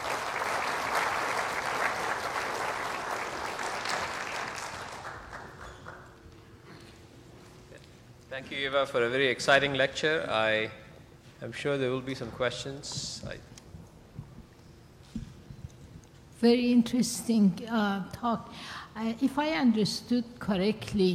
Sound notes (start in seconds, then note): 4.0 applause